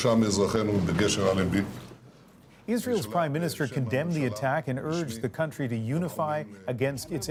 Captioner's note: speaking alternate language